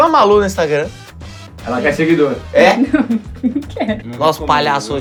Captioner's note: risos